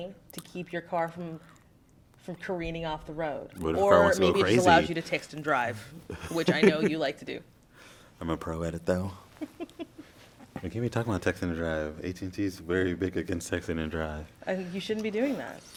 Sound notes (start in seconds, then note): 9.4 laugh